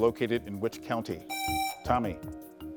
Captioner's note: presses buzzer